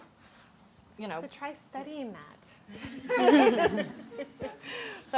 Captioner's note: chuckles